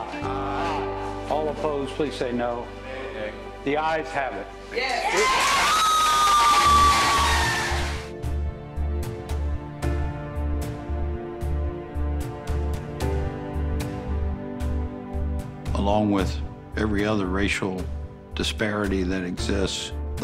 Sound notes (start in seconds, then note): 4.8 group cheer; 8.4 gentle music continues